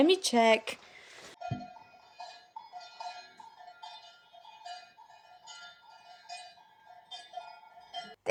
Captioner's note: bells ringing